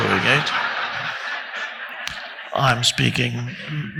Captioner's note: audience laughing loudly